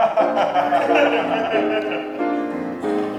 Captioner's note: they laugh